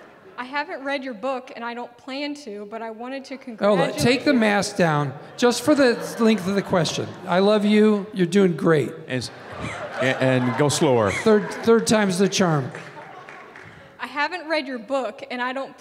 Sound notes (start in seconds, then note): 9.2 audience laughing